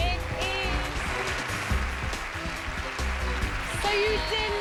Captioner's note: cheers and applause